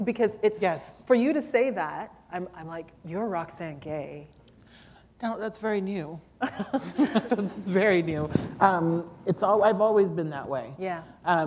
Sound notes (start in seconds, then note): 6.4 laughter